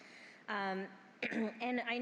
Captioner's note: clears throat